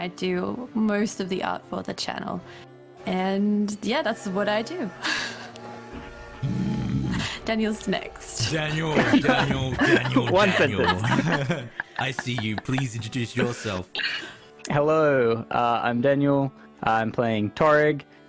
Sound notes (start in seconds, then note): 6.4 light growl; 11.1 all laughter